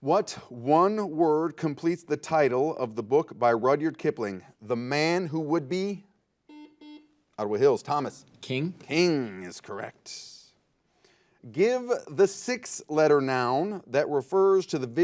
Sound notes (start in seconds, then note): 6.4 buzzer